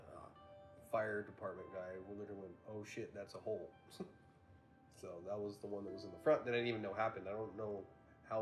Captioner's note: laughs